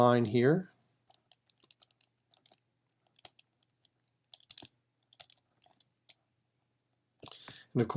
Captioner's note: typing